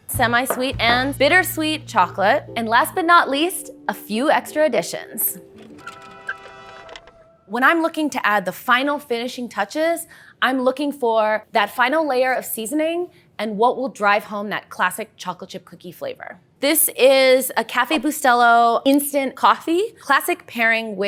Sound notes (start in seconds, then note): 5.6 horns; 5.6 cart wheels